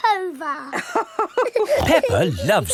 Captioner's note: both laughing